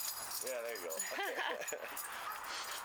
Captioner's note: laughter